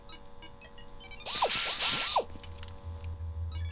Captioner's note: whirring